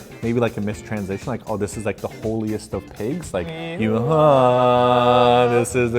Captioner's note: chanting noises